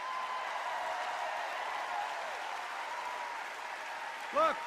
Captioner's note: cheers and applause